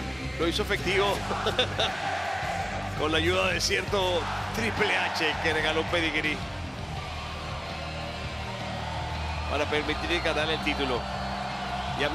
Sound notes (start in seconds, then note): 1.3 laugh